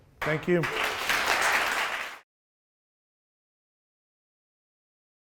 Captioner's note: audience applauds